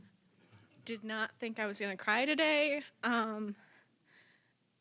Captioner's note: voice wavering